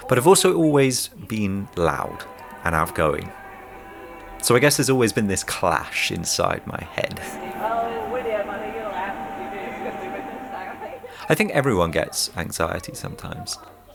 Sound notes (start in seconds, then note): 8.2 people chattering